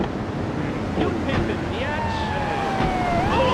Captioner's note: tires screech